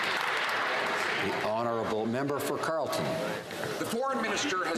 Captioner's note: some Applause